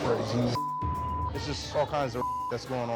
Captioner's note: beep